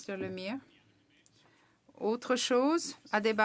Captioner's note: speaking French